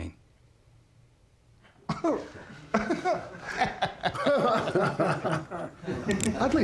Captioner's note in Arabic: يضحك الجميع; نقرات البندقية، لكنة اسكتلندية